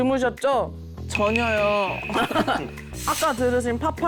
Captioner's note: mission reveal sound effect; unbelievable sound effect